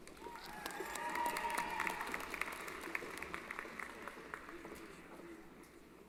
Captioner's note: applause